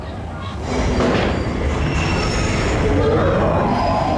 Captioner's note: train cars squeaking; riders screaming